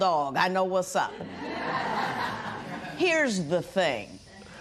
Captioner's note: laughter